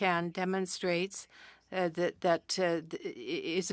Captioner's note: speaking French